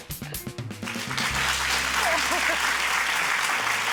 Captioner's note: applause